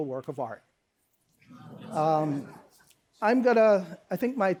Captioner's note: laughter